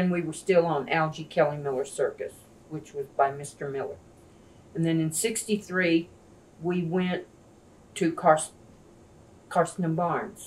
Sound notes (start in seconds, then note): none